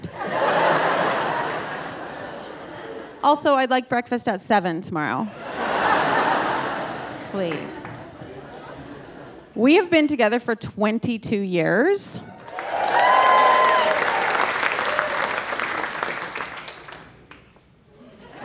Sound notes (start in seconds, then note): 0.0 audience laughing; 5.3 audience laughing; 12.4 audience cheering and applauding